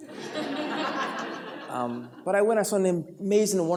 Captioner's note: laughter